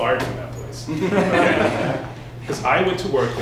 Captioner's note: laughter